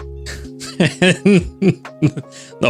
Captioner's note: laughs